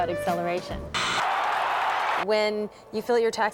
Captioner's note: crd cheering